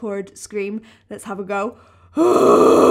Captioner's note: low growl